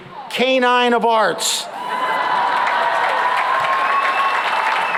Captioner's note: laughter and applause